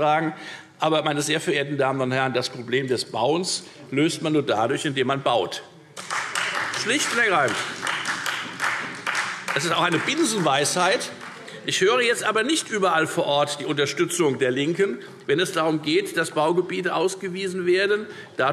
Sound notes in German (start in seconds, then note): 10.6 Beifall Freie Demokraten